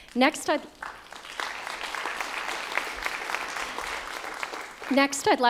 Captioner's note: applause